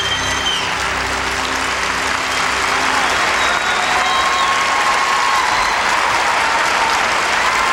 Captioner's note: crowd cheering